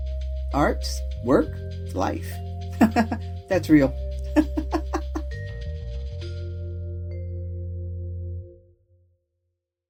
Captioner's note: laugh